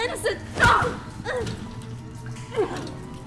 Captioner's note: punch; groans